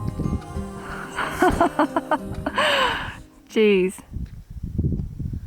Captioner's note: laughing